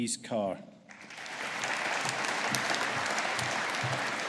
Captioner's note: audience applauding